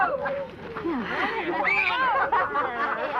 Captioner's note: screaming